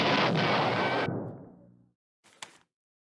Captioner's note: distant explosion